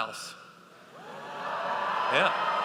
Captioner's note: audience cheers